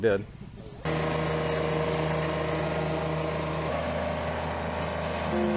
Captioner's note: machine engine roaring